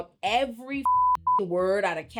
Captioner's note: beep